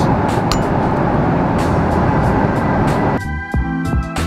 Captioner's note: glass clinks